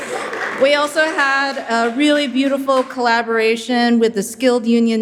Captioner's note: laughing